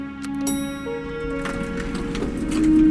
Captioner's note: ding